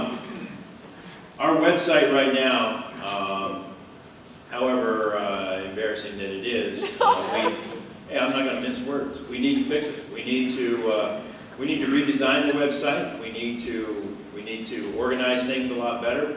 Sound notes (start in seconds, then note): 6.8 laughter